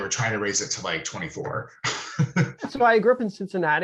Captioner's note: laughing